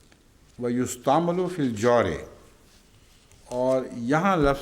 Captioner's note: Arabic